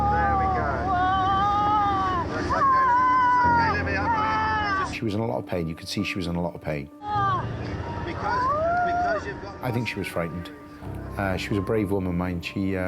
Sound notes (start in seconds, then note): 1.6 moaning; 2.5 crying out; 7.8 whimpering